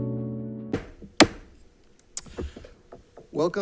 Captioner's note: gavel thudding